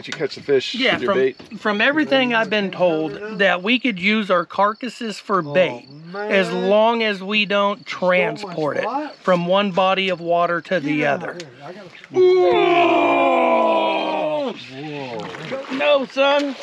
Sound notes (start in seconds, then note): 12.1 excited groans; 15.2 fish splashing